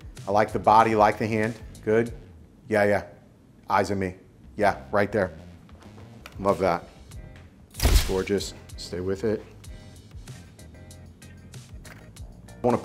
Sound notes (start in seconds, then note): 7.8 camera clicking; 9.6 upbeat music continues